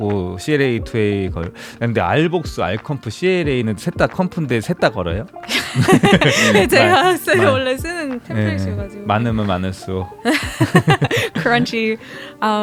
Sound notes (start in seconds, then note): 10.2 laughs